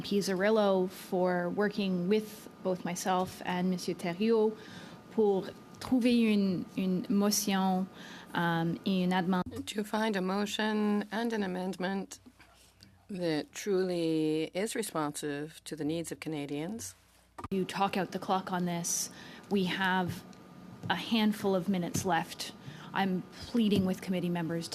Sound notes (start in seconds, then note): 10.5 speaking French